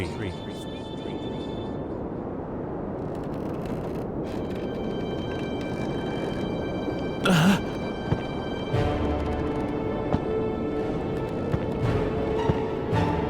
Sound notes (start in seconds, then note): 2.9 whistling of the wind; 6.3 scary music; 10.8 footsteps